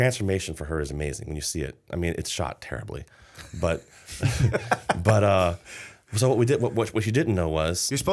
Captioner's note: laughter